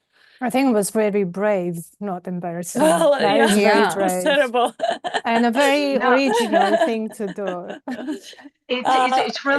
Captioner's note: laughter